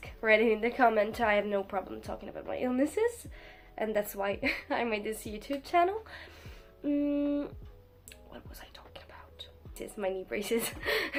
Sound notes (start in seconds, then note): 7.5 wispering